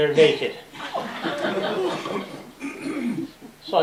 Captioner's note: laughter